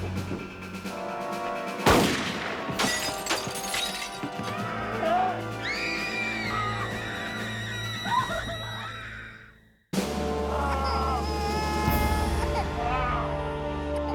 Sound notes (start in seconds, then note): 5.6 screaming; 5.6 crying; 9.5 groaning; 10.9 baby crying